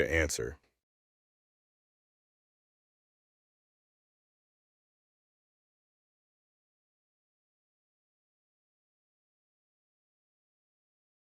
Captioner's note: no audio